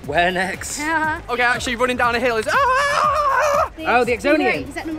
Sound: screams

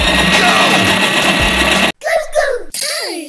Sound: voiceover; tire skidding

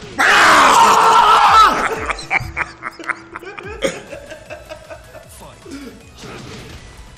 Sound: laugh

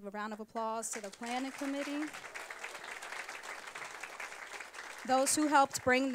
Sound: applause

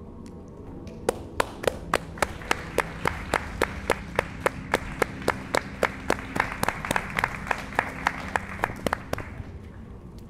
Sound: applause

